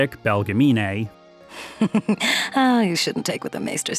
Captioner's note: chuckles